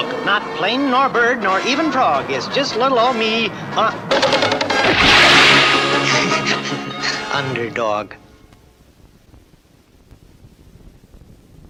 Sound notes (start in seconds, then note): 4.8 crash! & splash!; 6.0 laughs!